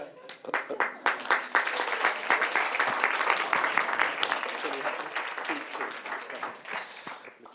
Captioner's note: applause